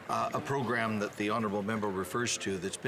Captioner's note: some Applause